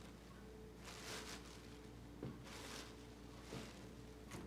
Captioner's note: plastic bag rustling